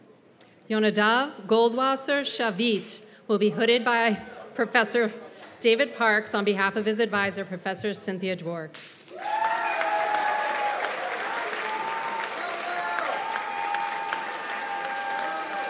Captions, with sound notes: Yonadav Goldwasser Shavit will be hooded by Professor David Parkes on behalf of his advisor, Professor Cynthia Dwork. [CHEERS AND APPLAUSE]